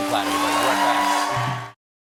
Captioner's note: cheers and applause